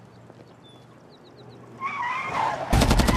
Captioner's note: squealing of tires; machine gun fire